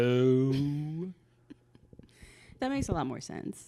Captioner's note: laughs